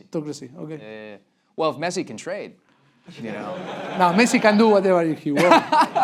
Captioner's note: laugh break